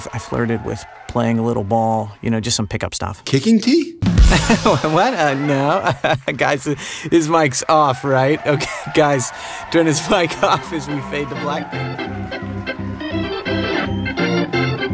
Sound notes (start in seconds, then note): 4.0 rimshot drumming; 4.2 audience laughing; 5.4 laughs; 11.5 energetic organ music